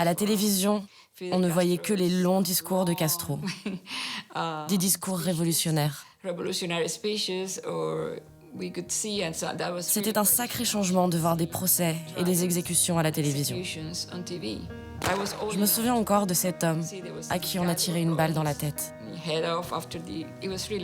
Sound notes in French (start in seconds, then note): 3.4 rires